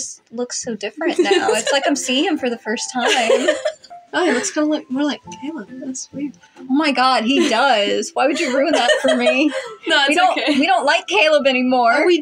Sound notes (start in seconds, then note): 3.0 laugh; 8.2 laugh; 8.3 chuckle